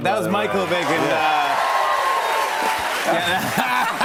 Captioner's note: cheers and applause; both laugh